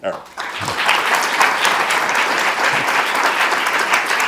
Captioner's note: audience applause